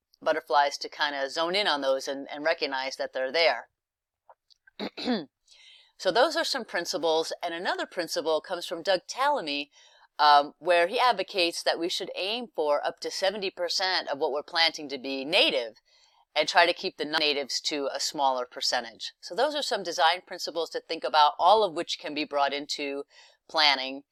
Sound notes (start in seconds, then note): 4.8 cough